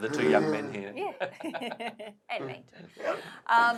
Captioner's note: laughs